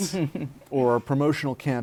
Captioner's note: laughter